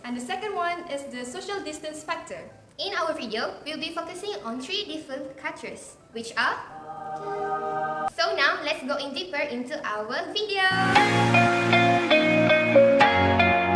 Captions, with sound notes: and the second one is the In our video, we will be focusing on three different cultures; which are *naff angelic noise* So now, let's go in deeper into our video! :D